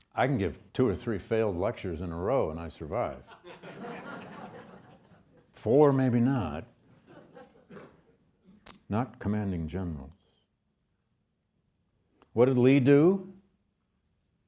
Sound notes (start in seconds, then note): 3.2 students laughing; 6.9 students laughing